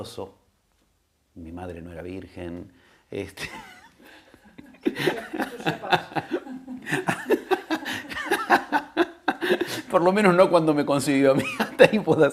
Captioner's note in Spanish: risas